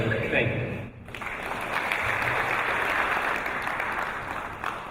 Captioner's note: applause